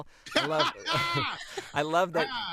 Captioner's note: both laughing